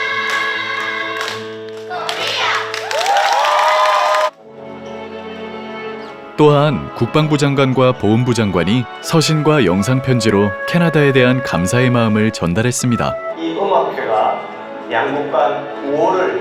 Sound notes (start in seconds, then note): 13.5 video message plays